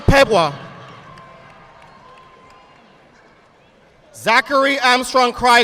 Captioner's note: audience applauding